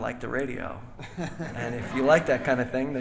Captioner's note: audience laughing